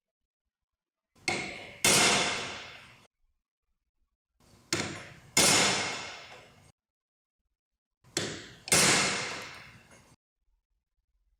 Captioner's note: hammer hitting chisel noise; hammer noise